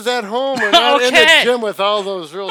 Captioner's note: laughter